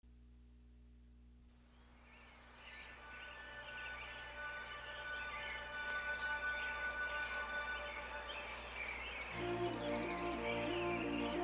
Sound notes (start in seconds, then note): 1.7 birds calling; 3.1 steady orchestral music